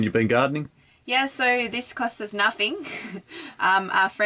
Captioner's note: laughs